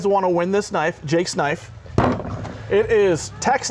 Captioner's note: thud